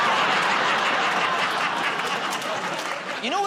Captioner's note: laughter